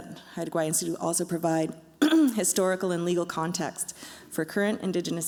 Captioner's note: clears throat